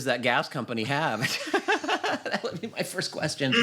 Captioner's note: laughter